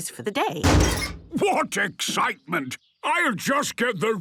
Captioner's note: metallic door bursting